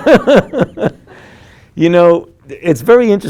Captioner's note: laughing; group laughing